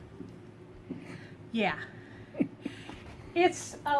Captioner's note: fiancé chuckles